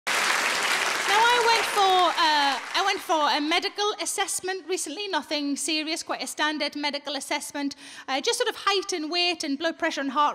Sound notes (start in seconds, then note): 0.0 audience applauding